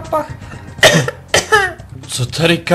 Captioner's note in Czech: kašle